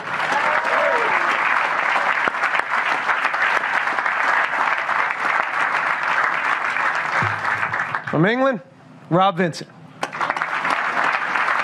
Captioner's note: applause